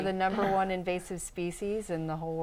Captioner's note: laughing